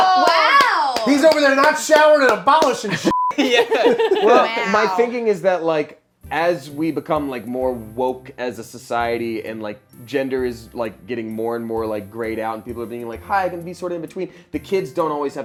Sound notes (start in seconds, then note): 3.1 beep